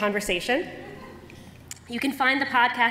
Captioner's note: laughter